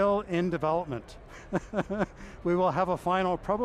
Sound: laughing

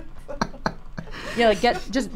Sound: laughs

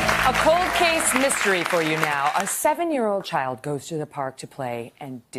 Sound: applause

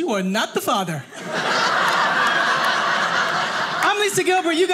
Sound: audience laughing

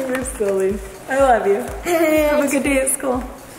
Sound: giggling

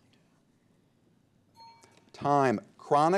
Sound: timer dings

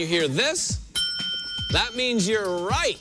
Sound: ding

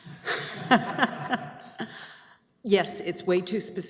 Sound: laughs

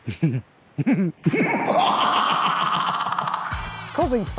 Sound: evil laugh!

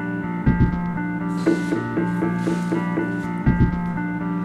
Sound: tennis shoes scuffs

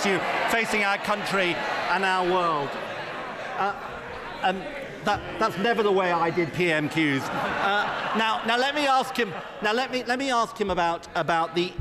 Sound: laughter

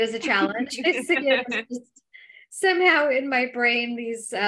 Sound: laughter

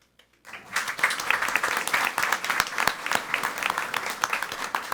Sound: audience applauding

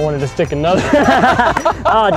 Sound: laughter

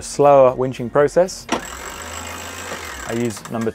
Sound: winch rattling

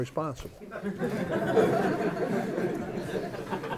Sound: laughter

